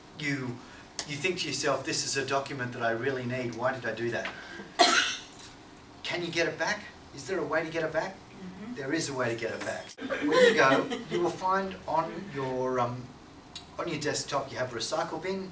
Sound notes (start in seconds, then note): 4.7 coughs; 10.0 all laugh